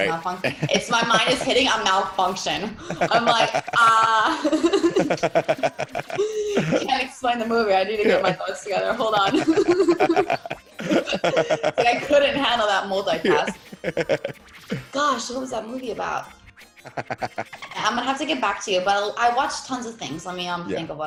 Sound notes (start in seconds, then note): 0.0 laugh; 9.5 laugh